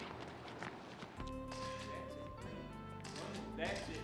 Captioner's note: camera shutter clicks